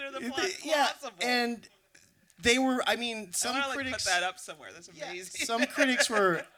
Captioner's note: laughter